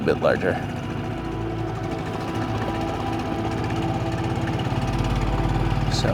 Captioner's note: gentle music; motor burbling